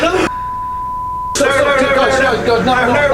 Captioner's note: panic shouting